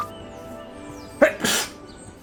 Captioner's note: sneeze